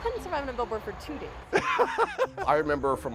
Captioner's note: laughing